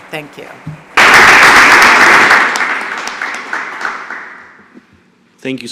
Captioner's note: applause